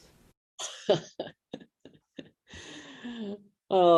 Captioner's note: laughing